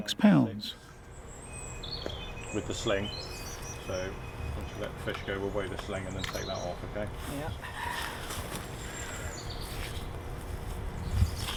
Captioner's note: general low chat